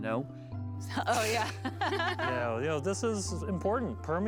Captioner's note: laughs